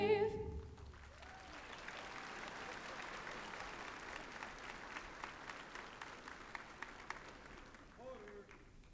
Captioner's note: applause